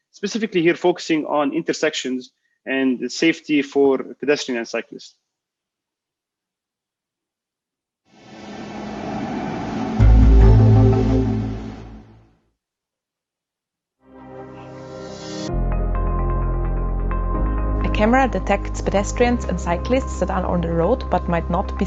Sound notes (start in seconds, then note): 8.2 rumbling